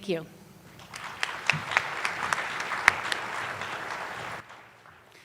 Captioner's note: attendees applauding